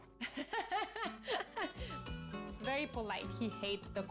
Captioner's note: laughs